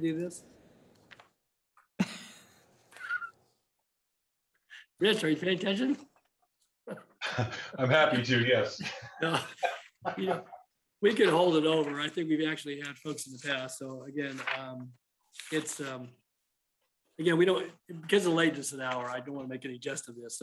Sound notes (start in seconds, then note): 6.6 laughter